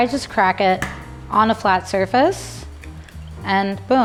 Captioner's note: crack